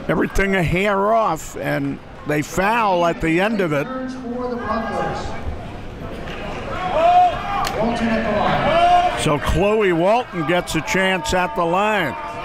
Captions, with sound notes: Everything a hair off and they foul at the end of it. (crowd talking and yelling) So Chloe Walton gets a chance at the line.